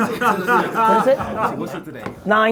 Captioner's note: laughs